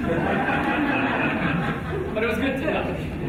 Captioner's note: audience laughing